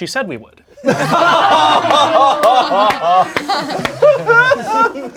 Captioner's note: crowd laughing